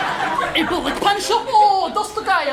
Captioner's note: more Czech gibberish